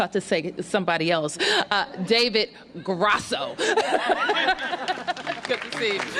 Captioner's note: applause